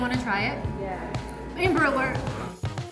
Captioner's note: alarm beeps